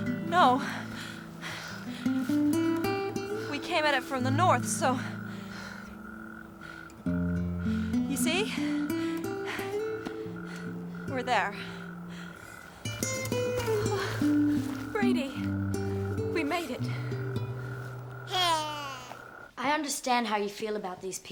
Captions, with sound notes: - No. We came at it from the north so... (frogs croaking) You see? We're there. (gentle guitar music) - Brady, we made it. (Brady coos) - I understand how you feel about these people,